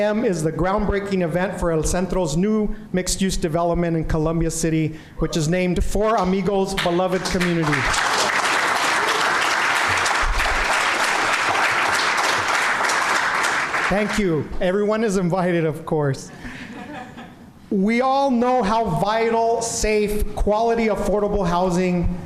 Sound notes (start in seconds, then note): 8.6 applause